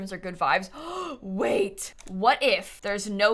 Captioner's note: gasp